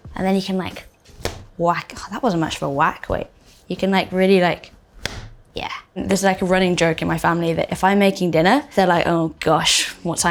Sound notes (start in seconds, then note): 4.9 dough smacking